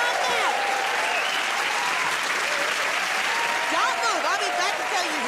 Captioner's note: cheers and applause